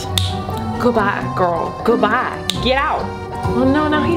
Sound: snaps

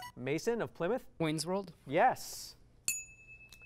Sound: ding

